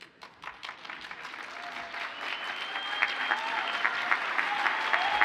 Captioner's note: audience cheers and applauds